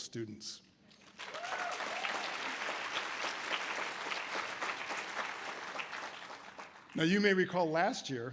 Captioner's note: audience applause